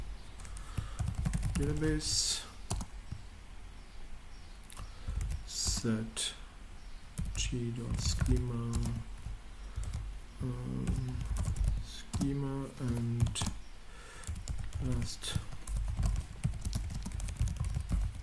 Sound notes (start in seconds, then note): 10.8 typing